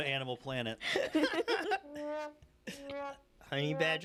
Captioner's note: laughter